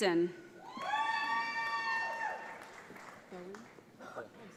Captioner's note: audience applauds